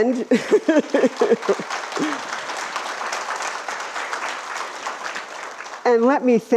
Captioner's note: applause